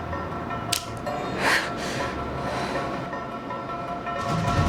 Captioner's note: knife clicking